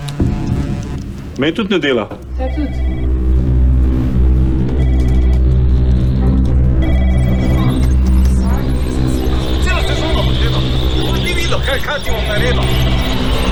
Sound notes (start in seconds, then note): 3.7 phone ringing and eerie music